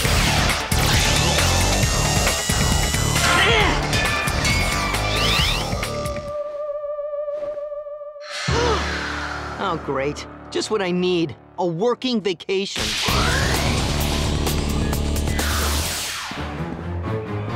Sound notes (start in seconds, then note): 7.8 gasps